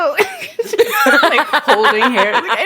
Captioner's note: both laugh